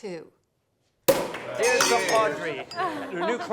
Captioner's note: cork pops